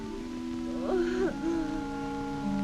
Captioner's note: mary sobbing